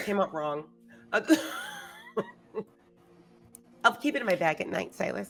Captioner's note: laughing